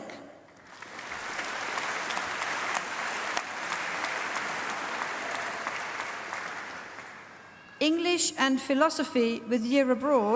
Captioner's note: applause